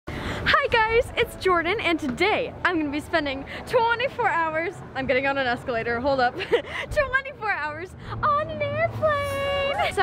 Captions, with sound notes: - Hi guys, it's Jordan! And today I'm gonna be spending 24 hours, I'm getting on an escalator, hold up. (laughs) 24 hours on an airplane!